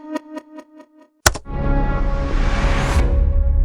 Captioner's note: repeating Sound Effect; key Click, Music Resumes